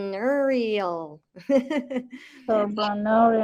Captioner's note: chuckles